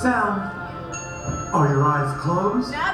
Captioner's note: ding